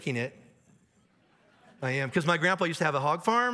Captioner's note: audience laughs